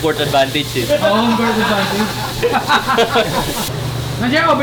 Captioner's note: laughter